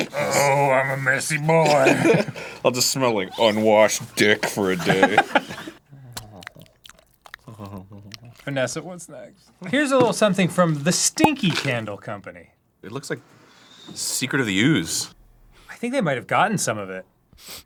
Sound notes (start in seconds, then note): 5.9 sensual mouth sounds; 17.3 quick sniff